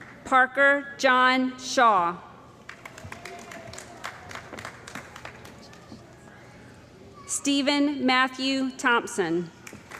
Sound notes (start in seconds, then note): 2.8 cheering & Applause; 9.8 cheering & Applause